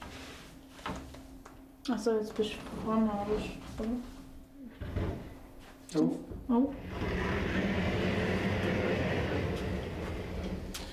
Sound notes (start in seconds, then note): 6.8 pushing noises